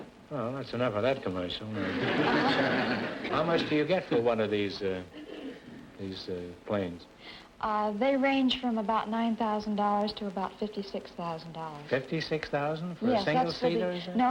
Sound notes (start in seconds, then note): 1.7 audience laughter